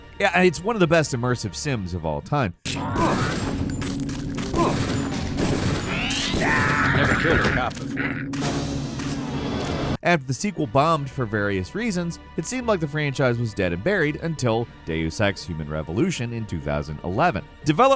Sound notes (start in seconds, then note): 3.3 grunting; 5.8 screams